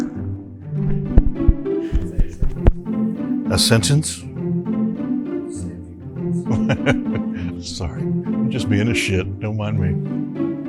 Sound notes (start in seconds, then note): 6.4 chuckles